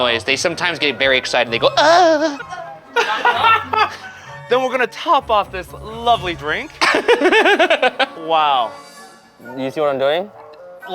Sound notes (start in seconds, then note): 1.6 moaning; 2.7 crew moaning; 2.9 laughing; 6.8 giggling